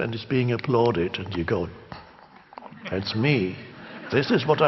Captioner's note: crowd laughs